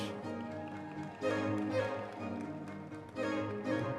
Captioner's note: audience members cheering